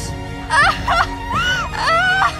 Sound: crying

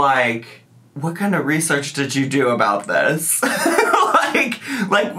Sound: laughing

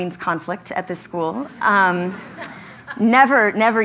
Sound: laugh

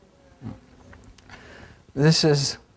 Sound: crowd murmurs

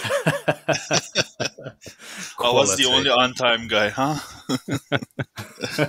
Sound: laughing

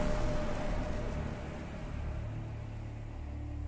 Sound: flesh sizzles

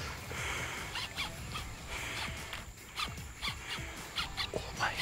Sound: line pulling; grunting

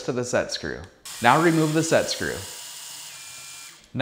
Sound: electric drilling

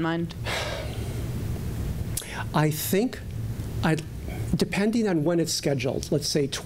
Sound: sighing

